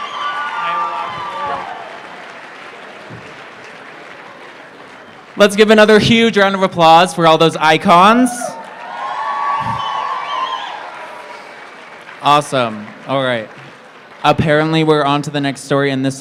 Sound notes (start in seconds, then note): 7.7 applause